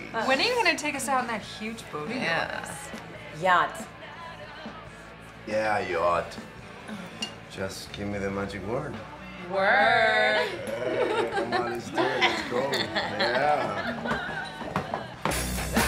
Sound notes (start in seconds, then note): 10.5 pirate growls; 13.2 girls laugh